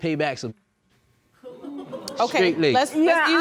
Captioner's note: audience laughs